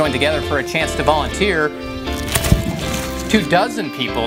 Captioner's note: cutting small tree